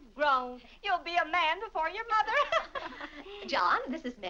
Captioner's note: laughs